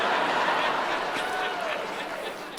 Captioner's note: laughter